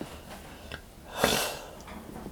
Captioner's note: clears throat